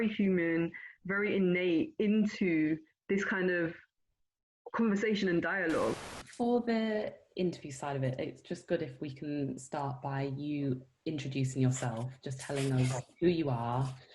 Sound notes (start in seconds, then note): 5.6 TV static